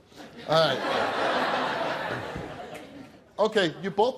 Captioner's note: audience laughing